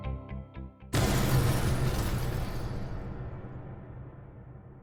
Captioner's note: explosion booming